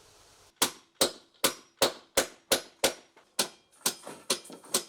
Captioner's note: hammer banging